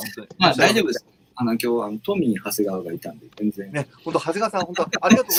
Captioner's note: laughs